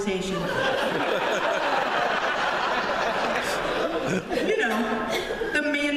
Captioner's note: laughter